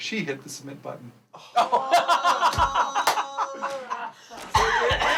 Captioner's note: all laughing